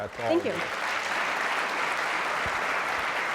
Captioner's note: applause